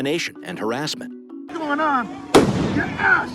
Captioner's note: bang